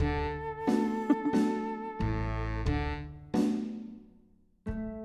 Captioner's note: giggles